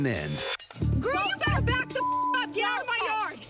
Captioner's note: beep